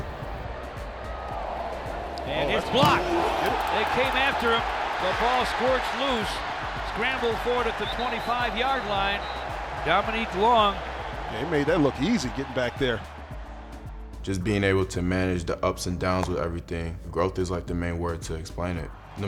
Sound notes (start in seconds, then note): 0.2 fans cheering; 3.5 fans roaring; 7.4 loud whistles